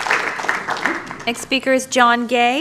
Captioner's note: applause